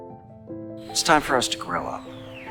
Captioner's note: voiceover